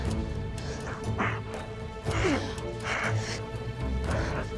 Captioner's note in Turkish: Nefes sesleri